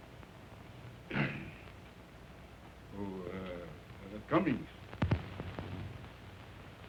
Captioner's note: clearing throat